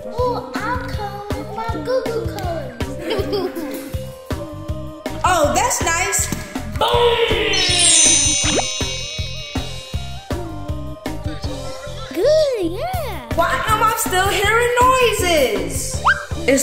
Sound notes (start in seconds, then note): 1.9 laughing; 7.2 high-pitched chimes